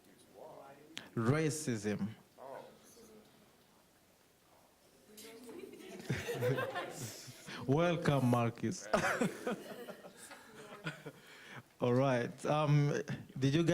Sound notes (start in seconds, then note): 5.4 laughing